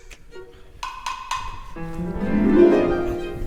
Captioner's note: door knock